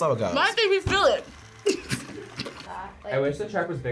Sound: laughs

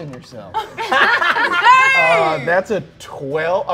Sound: players laughing

